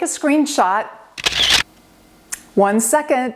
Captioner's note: camera shutter clicks